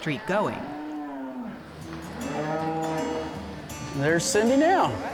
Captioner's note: cows mooing